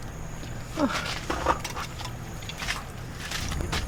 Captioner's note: ugh